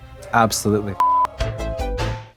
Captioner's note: synth bop; beep